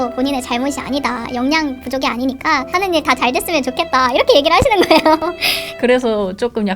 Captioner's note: laughs